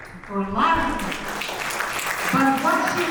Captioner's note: audience applauds